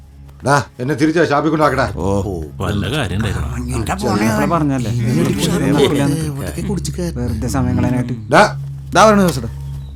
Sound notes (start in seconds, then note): 4.7 indistinct chatters